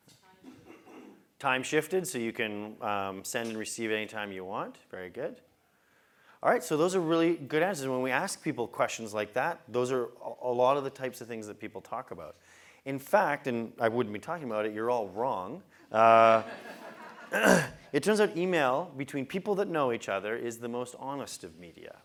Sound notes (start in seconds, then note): 16.2 laugh; 17.3 cough